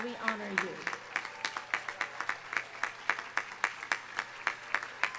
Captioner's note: audience applause